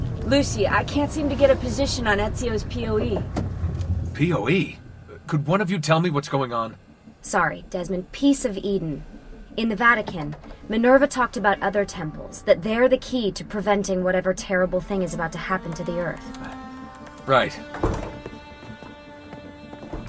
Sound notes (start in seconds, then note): 16.9 doors open